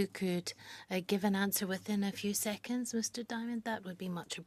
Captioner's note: speaking French